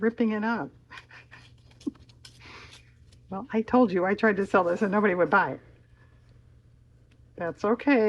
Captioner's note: laughs